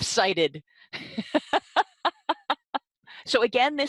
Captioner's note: laughing